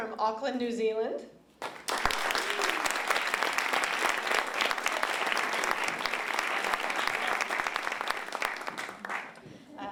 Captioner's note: applause